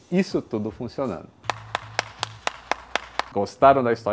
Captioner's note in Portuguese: som de palmas